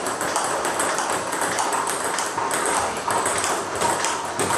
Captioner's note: ball ping pong hitting continues